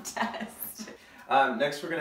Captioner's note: laughing